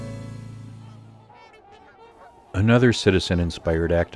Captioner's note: swans honk